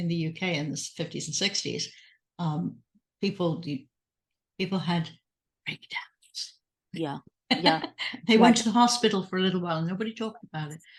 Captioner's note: whispered